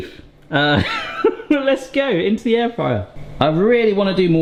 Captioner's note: chuckles